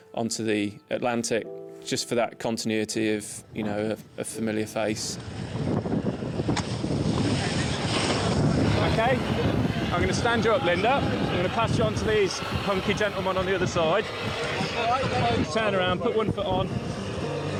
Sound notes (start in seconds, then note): 6.0 wind roars; 8.3 water splashes